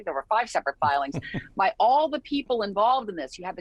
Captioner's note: chuckling